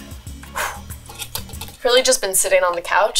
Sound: exhaling

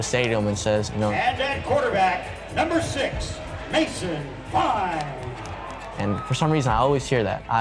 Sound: crowd cheers

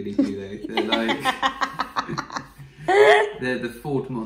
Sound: laughing

